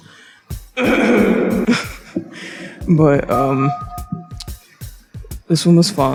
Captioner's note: clears throat